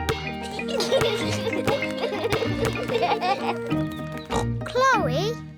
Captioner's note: youngsters giggle; oinks